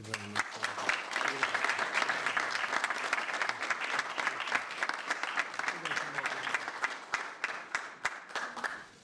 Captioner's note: applause